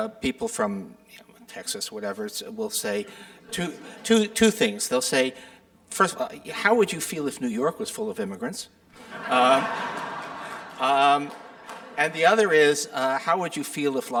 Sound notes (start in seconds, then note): 3.5 audience chuckling; 9.0 audience laughing and applauding